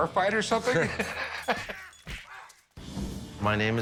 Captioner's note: laughing; fight sounds